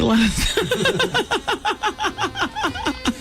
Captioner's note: laughter